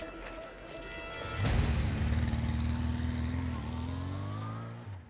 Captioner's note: motorbike riding